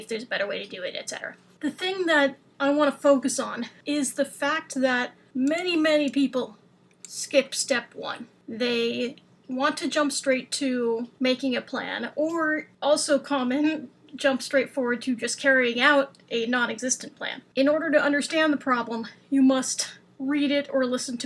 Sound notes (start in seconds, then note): none